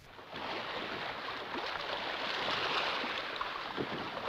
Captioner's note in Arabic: الأمواج تتكسر